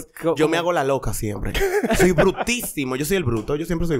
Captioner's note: laughs